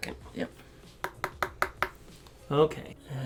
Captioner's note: brush tapping